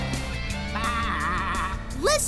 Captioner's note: bleating